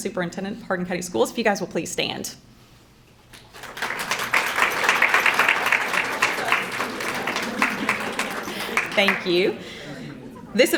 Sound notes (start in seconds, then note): 3.3 crowd clapping; 6.6 background chattering